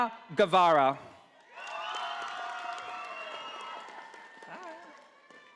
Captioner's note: audience applauding